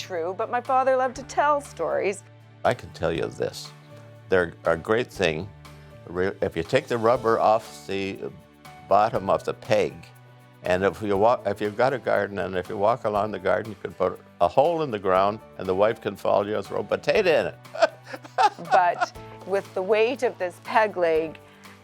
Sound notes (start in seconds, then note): 17.7 laughs